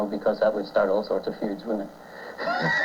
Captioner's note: laughs